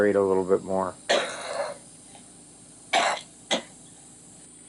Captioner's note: coughing